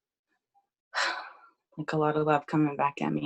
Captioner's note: exhales loudly